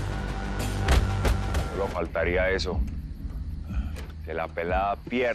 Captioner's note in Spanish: Golpes